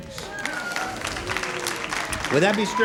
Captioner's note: applause